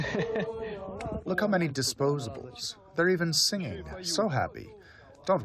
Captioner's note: through translator